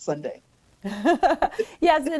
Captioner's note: laughs